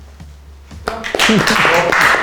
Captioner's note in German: Applaus